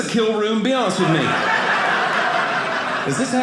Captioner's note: audience laughing